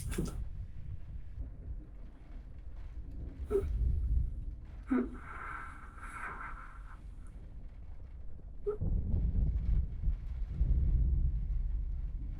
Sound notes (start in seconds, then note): 3.9 gasping; 8.8 thunder rolling